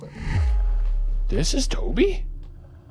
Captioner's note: electronic whooshing; tense spooky music